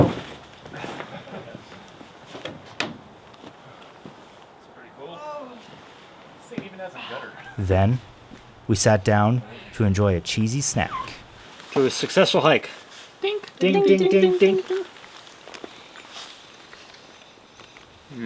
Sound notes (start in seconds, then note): 13.6 all mimicking glasses clinking together